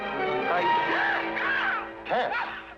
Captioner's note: suspenseful music; Tess screaming